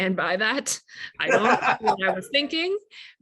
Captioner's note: laughing